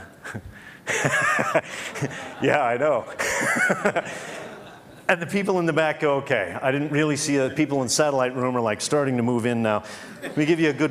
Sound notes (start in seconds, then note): 0.9 Laughs; 0.9 笑聲; 3.7 Laughs; 5.1 笑聲